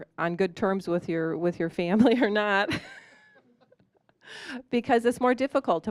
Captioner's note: laughing